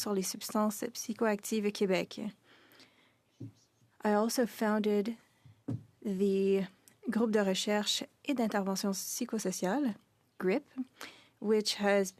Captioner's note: speaking French